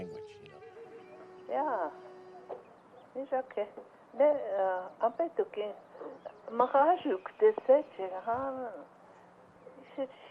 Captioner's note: woman speaking Dakota